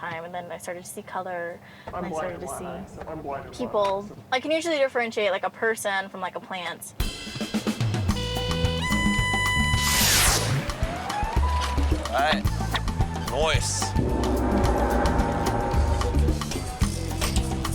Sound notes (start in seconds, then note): 6.9 jazzy music; 13.9 gong chimes